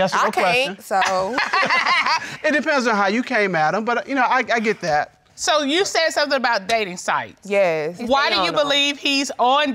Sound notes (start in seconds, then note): 1.3 laughs